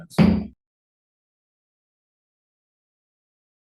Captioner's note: gavel bangs